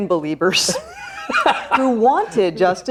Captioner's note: man laughing